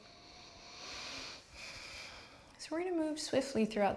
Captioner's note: deep breath